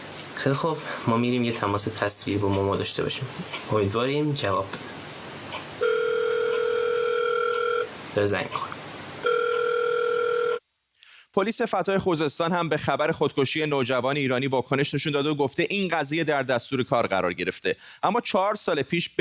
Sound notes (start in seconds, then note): 5.7 phone rings; 9.3 continues ringing